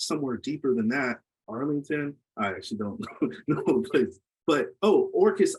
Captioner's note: laughs